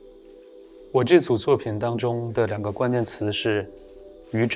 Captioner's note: Mandarin